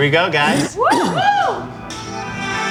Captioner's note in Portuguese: Gritos